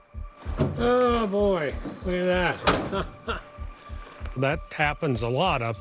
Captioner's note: laughs